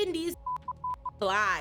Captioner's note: beep